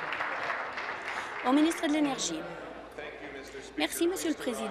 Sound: applause

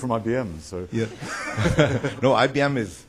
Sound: laughter

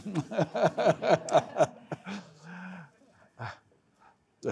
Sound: laughing

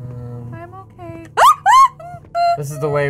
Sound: screams

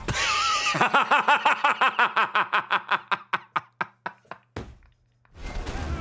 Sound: laughs

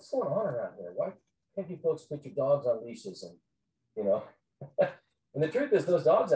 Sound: chuckles

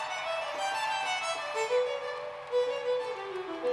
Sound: excited cheering!

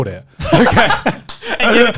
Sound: laughing

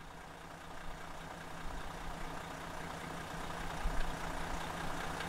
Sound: vehicle whirring

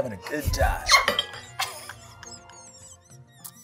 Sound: laughs

